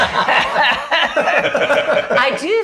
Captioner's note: laughing